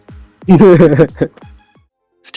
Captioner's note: laughter